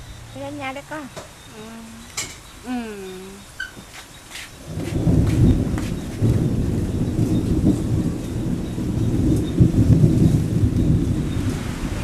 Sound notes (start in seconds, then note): 4.6 thunderstorm